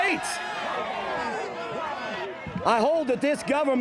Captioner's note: jeering and cheering